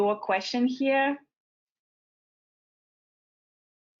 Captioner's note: silence